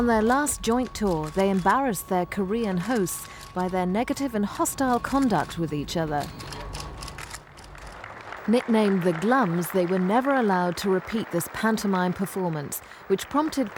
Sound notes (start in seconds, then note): 9.9 crowd clapping